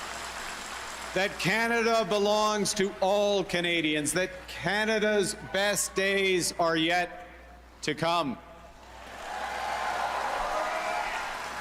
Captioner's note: cheers and Applause